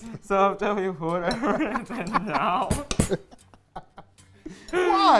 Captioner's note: laughing